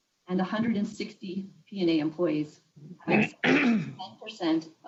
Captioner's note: distorted sound